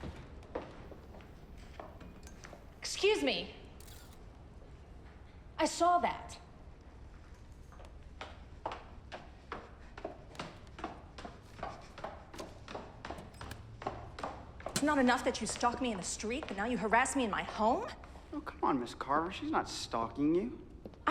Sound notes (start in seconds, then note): 0.1 shoes clacking; 3.8 camera shutter clicks; 8.6 shoes clacking